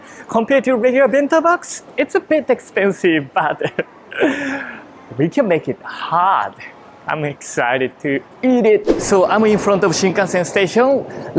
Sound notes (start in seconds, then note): 3.4 chuckles